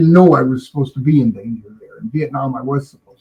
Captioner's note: laughing